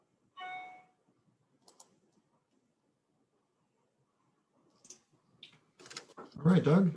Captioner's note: notification rings; mouse clicks